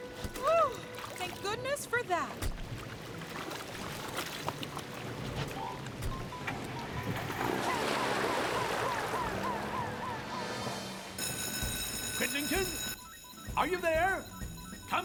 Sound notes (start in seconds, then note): 7.8 siren Blaring